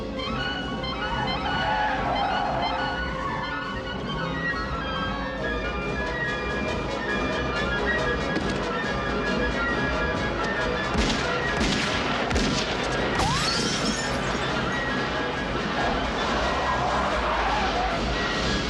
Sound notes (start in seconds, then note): 11.5 gunfire